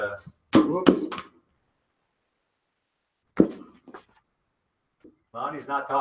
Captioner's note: ball clunks